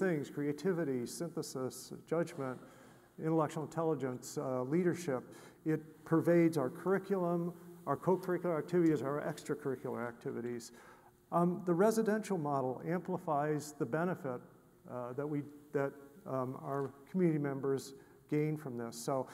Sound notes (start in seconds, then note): none